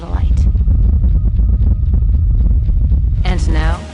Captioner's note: satellite thundering